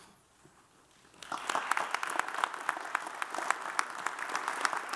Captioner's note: audience applauds